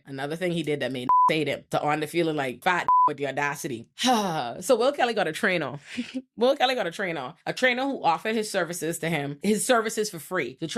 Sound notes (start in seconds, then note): 1.0 beep; 2.8 beep